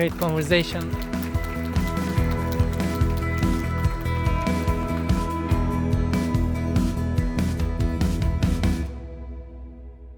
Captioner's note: applause and Upbeat Music